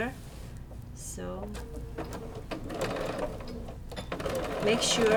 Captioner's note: sewing machine hums